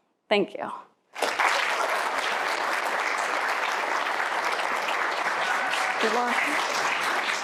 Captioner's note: applause